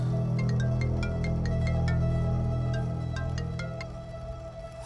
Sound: phone rings

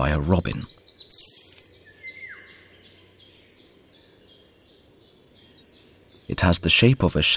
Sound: sounds of nature

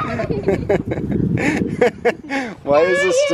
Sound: boy screams; laughs

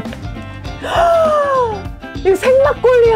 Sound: gasp

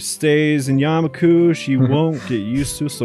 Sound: chuckles

